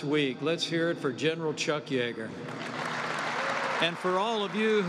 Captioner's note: applause